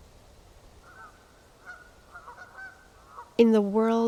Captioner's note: geese honking